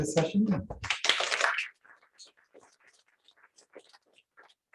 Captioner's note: applause